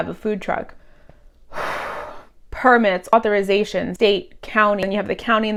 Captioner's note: exhales deeply